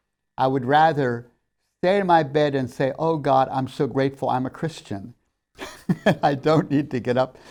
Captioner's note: laughs